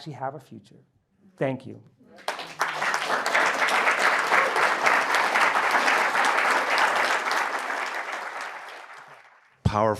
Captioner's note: applause